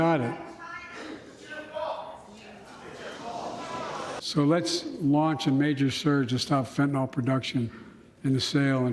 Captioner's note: rumbling among the crowd